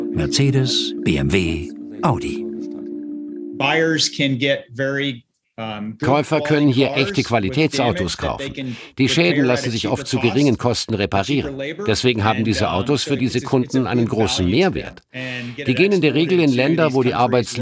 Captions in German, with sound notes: Mercedes, BMW, Audi. (englisch:) Käufer können hier echte Qualitätsautos kaufen. Die Schäden lassen sich oft zu geringen Kosten reparieren. Deswegen hab diese Autos für die Kunden einen großen Mehrwert. Die gehen in der Regel in Länder,